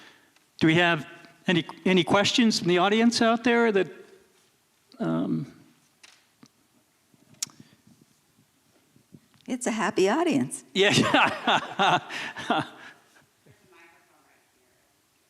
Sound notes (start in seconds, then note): 10.8 laughs